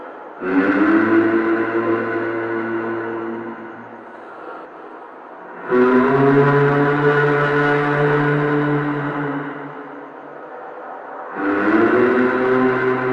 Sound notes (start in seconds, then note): 0.0 humming sound